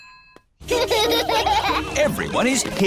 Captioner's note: children laughing